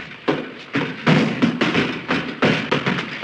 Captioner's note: thumping and stomping noises